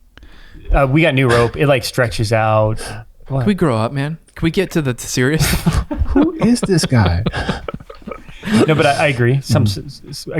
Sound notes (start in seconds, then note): 1.3 chuckles; 5.3 laughs